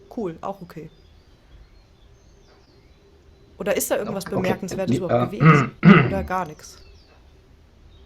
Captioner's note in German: räuspern